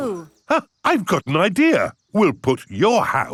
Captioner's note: gasps